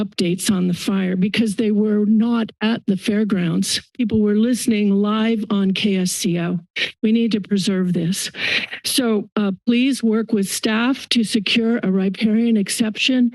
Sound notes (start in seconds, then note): 8.4 inhales